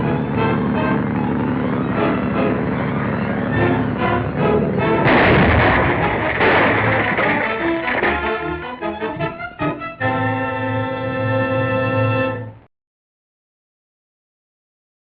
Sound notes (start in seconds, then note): 5.0 explosion